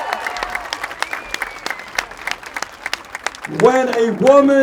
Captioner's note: applause